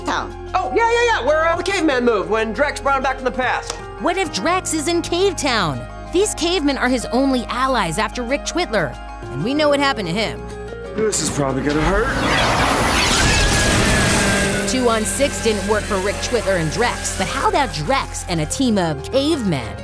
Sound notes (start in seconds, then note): 12.1 zapping; 12.7 screaming